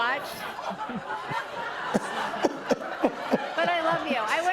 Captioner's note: sobbing